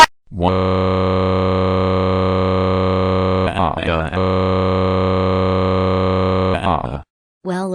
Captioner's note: crying